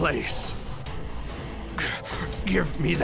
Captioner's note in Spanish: Gemidos